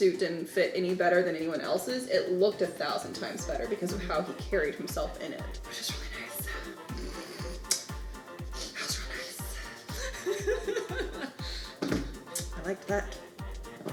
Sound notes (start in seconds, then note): 10.3 laughing